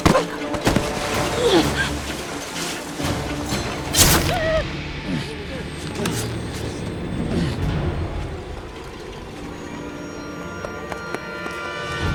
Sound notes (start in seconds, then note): 4.5 Lucia gasps